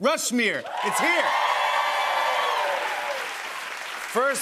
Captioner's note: cheers and applause